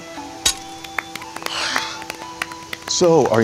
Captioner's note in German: Gruppe applaudiert leicht